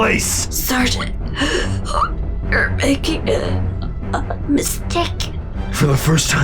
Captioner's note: choking